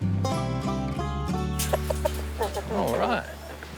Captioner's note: clucking